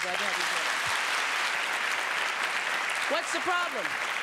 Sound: applause

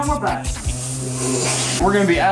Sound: hissing like a Snake

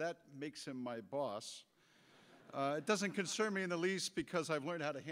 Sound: audience laughter

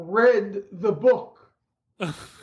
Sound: laughter

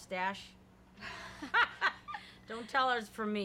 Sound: laughing

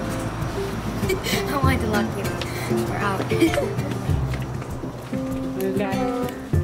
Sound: laughs

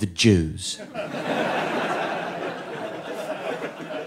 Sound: audience laughing

